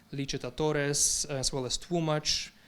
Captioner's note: speaking in foreign language